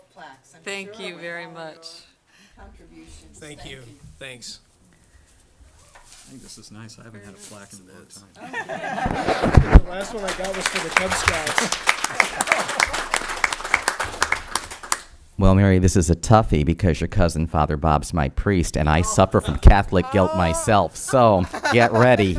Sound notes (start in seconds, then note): 9.8 audience applause